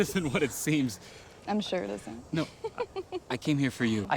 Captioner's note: laughs